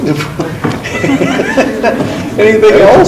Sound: laughs

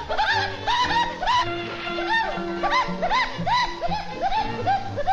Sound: cackling off in the distance

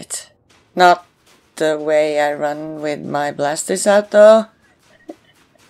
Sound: chuckles

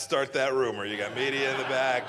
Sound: laughter

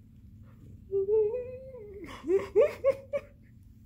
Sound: laughing

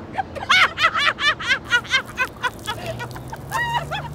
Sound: laughing

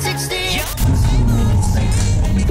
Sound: whispering

